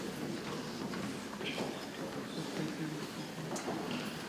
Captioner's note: people chattering softly